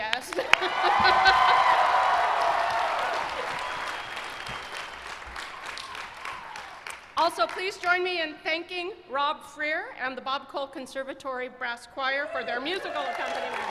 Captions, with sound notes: OKAY. GO AHEAD. YES.[CHEERS AND APPLAUSE] PLEASE JOIN ME IN OFFERING OUR THANKS TO ROBERT FREAR ANDTHE BO B COLE CONSERVATORY BRASS CHOIR FOR THEIR MUSICAL